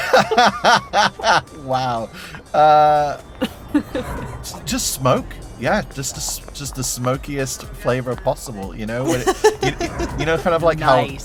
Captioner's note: laughs